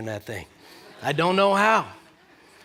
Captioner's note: laughter